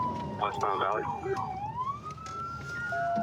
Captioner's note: sirens